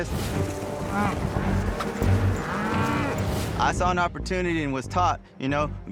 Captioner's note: mooing